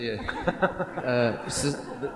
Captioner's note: laughter